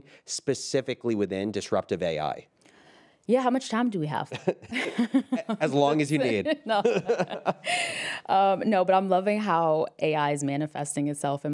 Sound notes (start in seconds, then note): 4.2 laughs